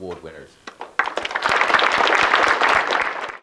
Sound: people clapping

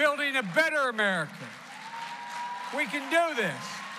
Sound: applause

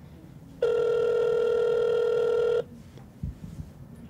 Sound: phone ringing

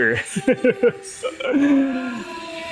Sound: chuckles

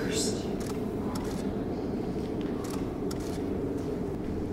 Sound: wind howling

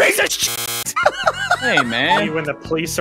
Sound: pufferlaugh.mp3

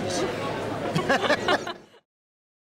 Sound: both laugh

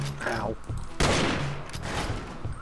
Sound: gunshot

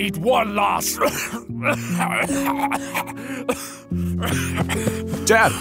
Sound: coughing attack

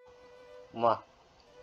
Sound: imitates Smooch Sound

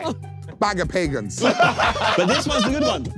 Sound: everyone laughing

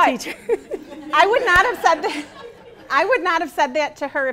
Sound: laughing

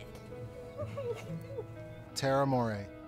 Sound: laughing

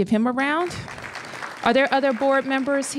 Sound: applause

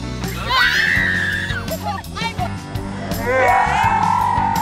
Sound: screams; screams in slow motion

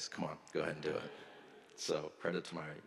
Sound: audience laughs

